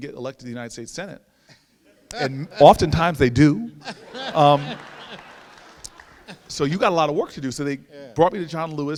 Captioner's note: laughter